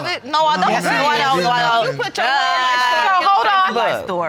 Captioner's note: all arguing